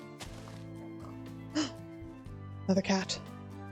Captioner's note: gasp